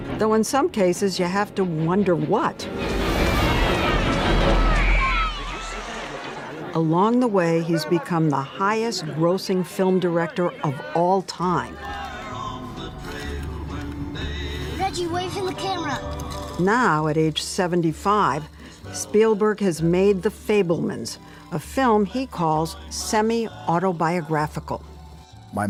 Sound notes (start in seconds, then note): 0.0 menacing music; 3.1 children playfully yelling; 4.8 swimmer screaming